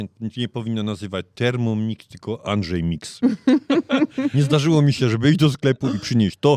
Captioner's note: śmiech